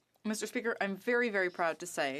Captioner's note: speaking French